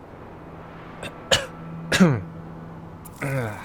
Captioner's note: grunts